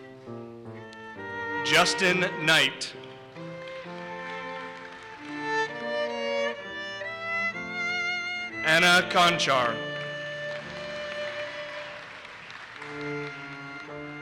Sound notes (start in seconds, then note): 3.5 audience applauses; 10.2 audience applauses